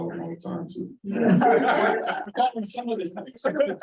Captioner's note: laughter